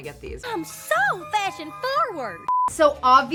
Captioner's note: screen beeps